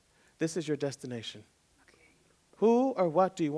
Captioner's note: whispered